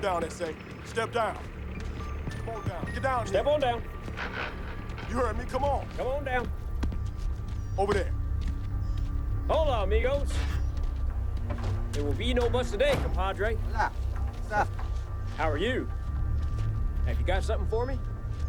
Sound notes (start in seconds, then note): 14.0 drug runner speaks Spanish